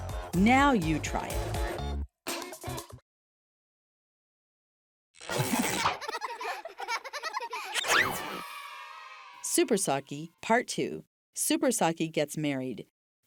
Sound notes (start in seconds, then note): 5.6 children laughing; 8.0 children cheering